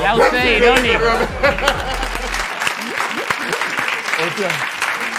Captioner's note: applause